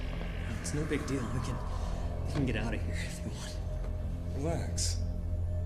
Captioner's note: none